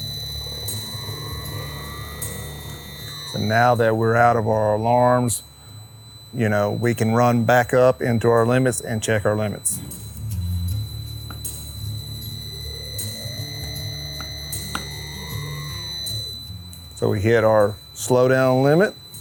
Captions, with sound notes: So now that we're out of our alarms, you know, we can run back up into our limits and check our limits. (motor whirring) (upbeat music continues) So we hit our slowdown limit